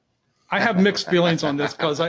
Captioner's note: laughs